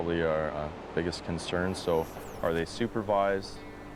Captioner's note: voiceover